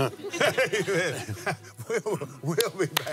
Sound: laughs

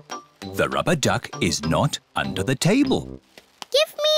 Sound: none

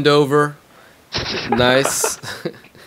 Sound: laughter

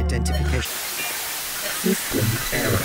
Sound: static swirling

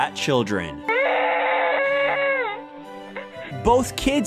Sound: crying

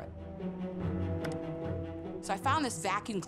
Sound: mouse clicking

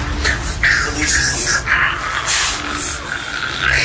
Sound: choking

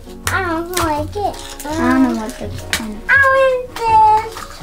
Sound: mumbling

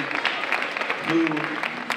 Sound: audience applauding

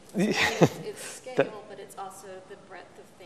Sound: laughs

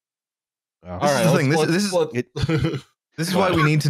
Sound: chuckles

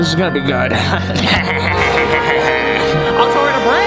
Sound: evil laughing

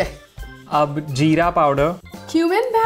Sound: speaking in Hindi

